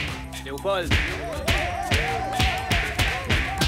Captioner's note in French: cris de la foule